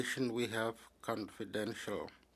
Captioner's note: speaking French